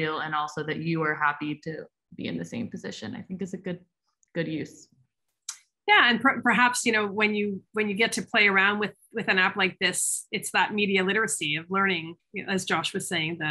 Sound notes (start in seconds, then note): none